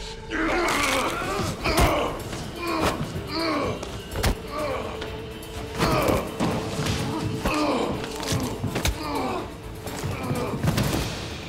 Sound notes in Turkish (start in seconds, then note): 0.3 Bağırma sesi; 0.6 Kol kırılma sesi; 2.7 Bağırma sesi; 2.7 Müzik - Hareketli